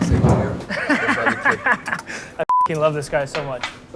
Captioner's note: laughs